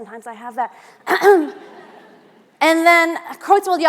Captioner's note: audience laughing